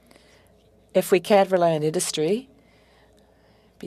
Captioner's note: speaking French